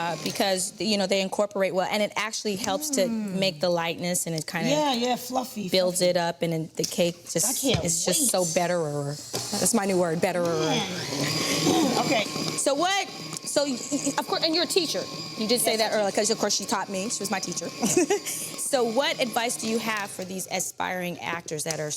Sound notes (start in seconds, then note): 11.4 mixer whirring; 18.4 laughs